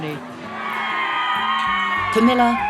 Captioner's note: crowd cheers